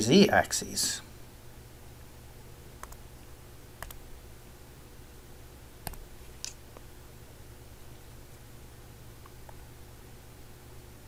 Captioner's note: writing Sounds